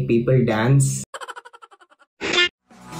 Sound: funny Laugh

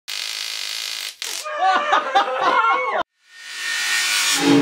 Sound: stun gun and laughing

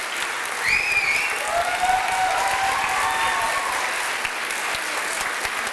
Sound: cheering

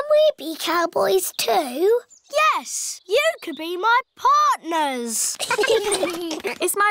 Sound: all giggling

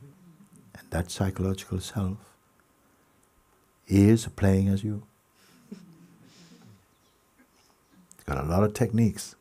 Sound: laughter

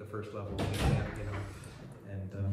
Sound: loud door

